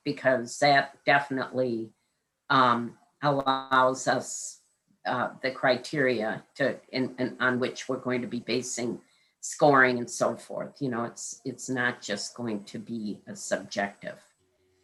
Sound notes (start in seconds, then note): none